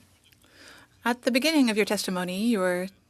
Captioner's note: speaking French